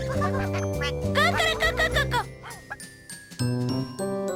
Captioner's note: clucks